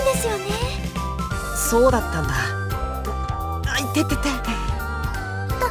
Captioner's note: wince in pain